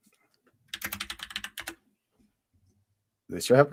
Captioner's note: typing